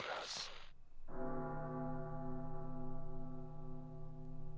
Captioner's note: large bell tolling repeatedly